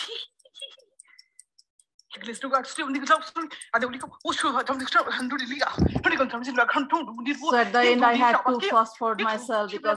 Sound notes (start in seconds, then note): 0.0 giggles; 2.1 speaking gibberish